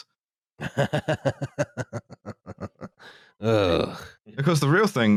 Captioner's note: laughs